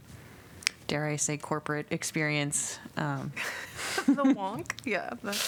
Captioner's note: laughter